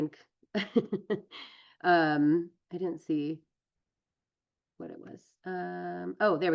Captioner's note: laughs